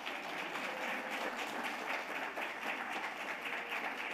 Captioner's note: audience applauding